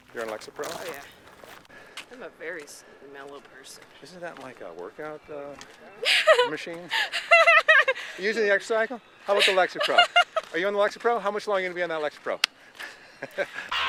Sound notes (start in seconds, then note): 6.7 laughing; 12.8 laughing